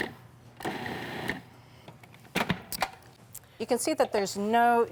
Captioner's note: food processor whirs